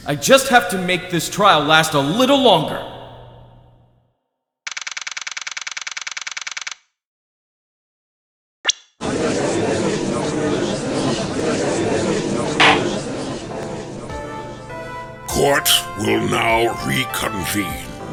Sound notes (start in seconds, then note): 9.1 gallery chattering; 12.6 gavel slams!